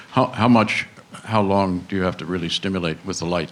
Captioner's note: voiceover